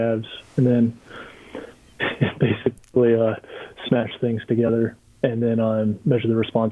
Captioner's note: chuckling